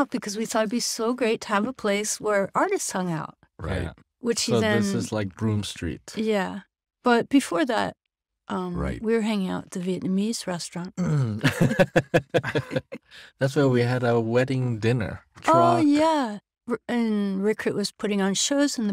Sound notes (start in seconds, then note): 11.0 laughing